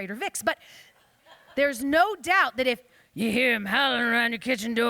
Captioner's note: gruffly